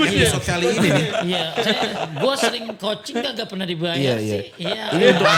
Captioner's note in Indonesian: tertawa